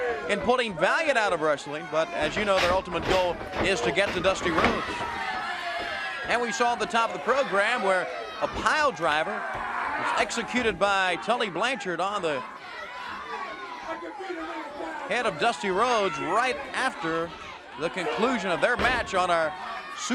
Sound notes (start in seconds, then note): 9.2 crowd cheering; 16.2 crowd chatter